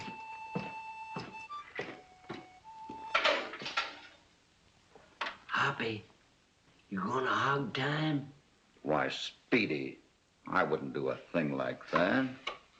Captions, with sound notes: [ DOOR OPENS ] [ WHISPERING ] Hoppy, you're going to hang him? Speedy, I wouldn't do a thing like that.